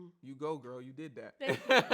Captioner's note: laughs